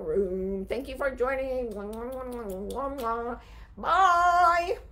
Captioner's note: smacks kisses